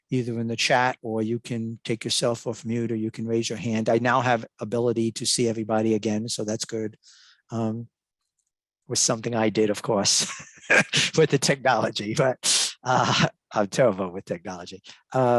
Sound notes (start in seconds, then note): 10.2 laughs